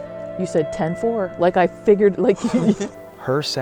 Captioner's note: laughs